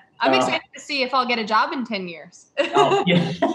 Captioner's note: laughter